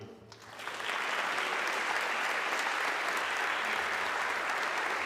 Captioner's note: audience clapping